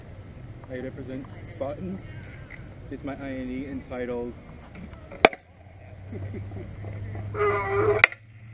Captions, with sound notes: I represent Spartan this is my i&e entitled: [geese geesing in the distance]